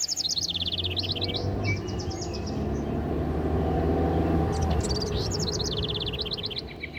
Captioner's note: A car drives on the road